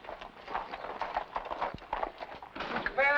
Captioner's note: hooves trotting